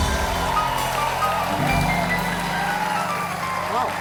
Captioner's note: applause